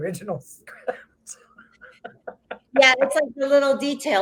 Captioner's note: both laughs